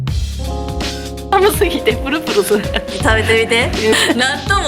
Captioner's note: laughs